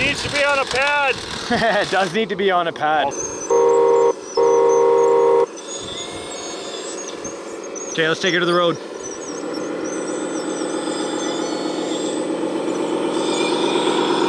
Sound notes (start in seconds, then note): 3.3 truck beeping; 10.2 truck engine rumbling